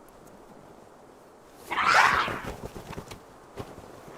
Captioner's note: growling